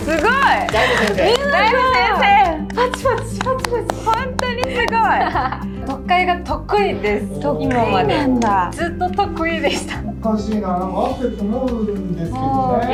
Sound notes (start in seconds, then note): 0.1 laughs; 2.4 clap clap!